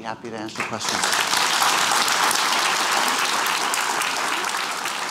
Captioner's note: applause